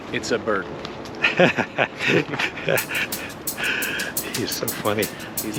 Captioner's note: both laugh